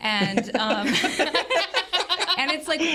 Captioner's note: group laughing